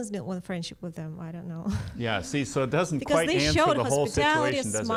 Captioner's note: laughs